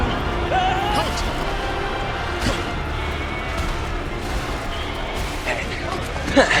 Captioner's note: various stomping and screaming; uncomfortable goat noises